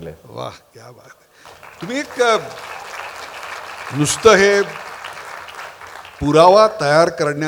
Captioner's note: applause